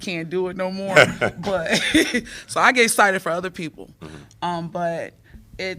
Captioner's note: laughter